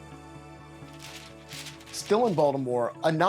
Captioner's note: paper rustling